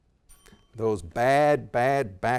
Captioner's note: bell tings